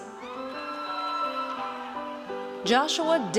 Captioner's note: audience cheers